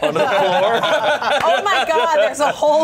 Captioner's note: everyone laughs